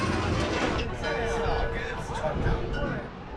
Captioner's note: bells ringing lightly